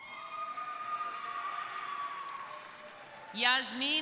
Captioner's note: crowd cheering